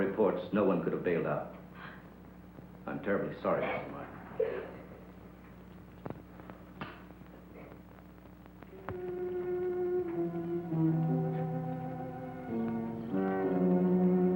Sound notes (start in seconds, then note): 4.3 Ellen sobbing; 9.0 soft, suspenseful music